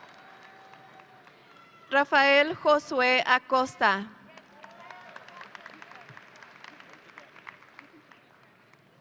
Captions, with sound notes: Rafael Josue Acosta. (audience applauding)